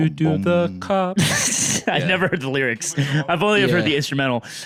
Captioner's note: laughs